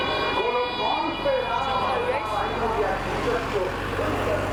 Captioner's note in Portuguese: som de conversas